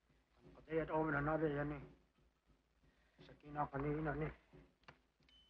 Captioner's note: men speaking foreign language